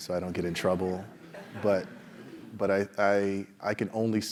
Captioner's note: laugh